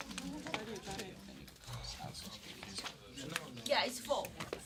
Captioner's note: students murmur